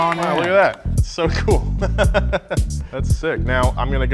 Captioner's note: chuckling